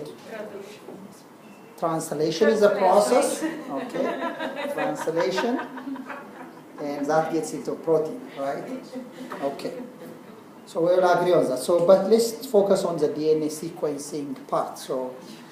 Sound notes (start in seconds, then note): 3.4 laugh